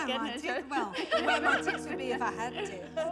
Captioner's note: laughs